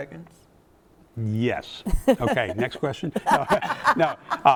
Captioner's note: laughing